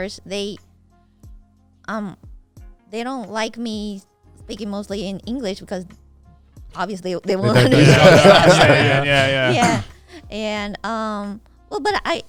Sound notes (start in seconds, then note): 7.4 everyone laughing